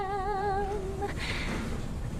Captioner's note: deep breath